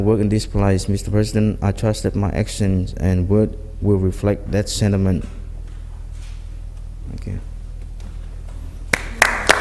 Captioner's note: applause